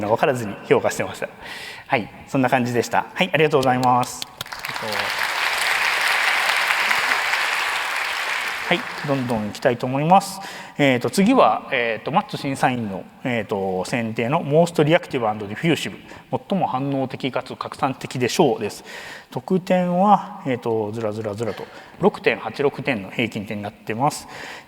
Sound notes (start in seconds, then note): 4.1 applause